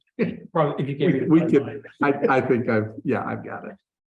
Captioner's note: trustees chatting